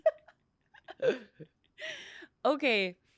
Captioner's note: laughs